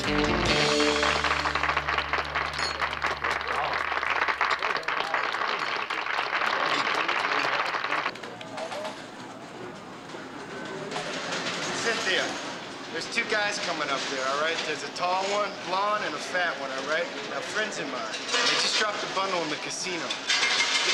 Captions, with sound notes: (audience applauding) (people chattering) (slot machines clattering) - Cynthia. There's two guys coming up there, all right. There's a tall one blonde and a fat one, all right. They're friends of mine. They just dropped a bundle in the casino.